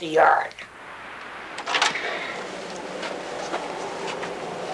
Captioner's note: door clicks open